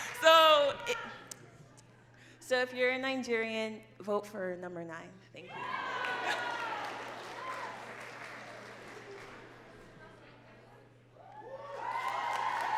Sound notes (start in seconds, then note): 0.0 laughing; 5.5 crowd cheering and clapping